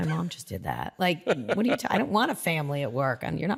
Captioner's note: laughs